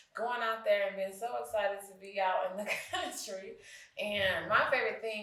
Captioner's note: chuckles